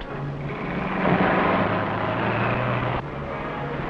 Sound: engine revving

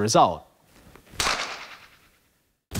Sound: echoing clap

